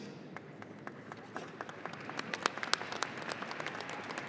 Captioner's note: audience applauding